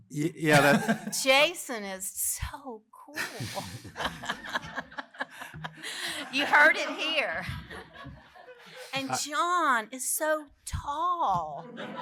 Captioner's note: laughter